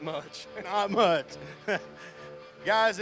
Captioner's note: laughing